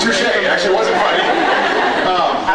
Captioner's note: laughs